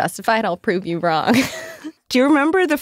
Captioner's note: laughs